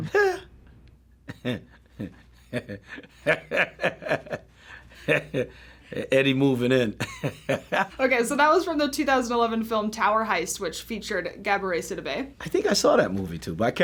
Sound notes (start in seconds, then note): 1.3 chuckles; 2.4 laughs